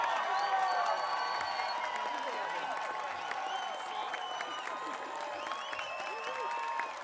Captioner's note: audience applauding; audience cheering